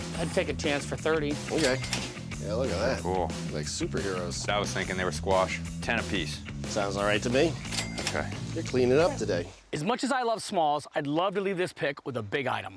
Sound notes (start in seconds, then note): 1.3 register dinging; 7.6 register dinging